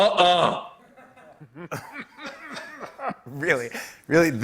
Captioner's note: light laughter